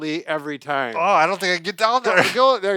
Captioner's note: grunting